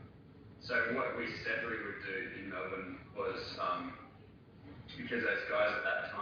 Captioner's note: audio distorts